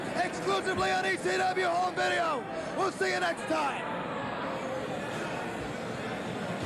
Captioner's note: cheers and applause